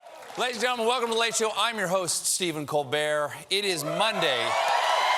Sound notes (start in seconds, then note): 0.0 cheers and applause; 3.7 cheers and applause